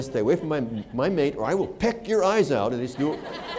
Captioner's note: laughter